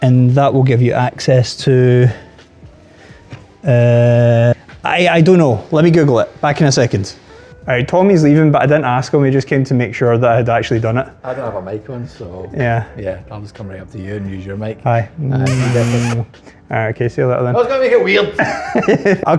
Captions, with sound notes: And that will give you access to, I don't know, let me Google it. Back in a second. Alright, Tommy's leaving, but I didn't ask him. He just came to make sure that I had actually done it. I don't have a mic on, so. Yeah. Yeah, I'll just come right up to you and use your mic. Hi. (kissing noises) Alright, ok, see you later then. No, don't make it weird!